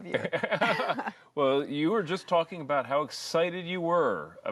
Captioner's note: laughter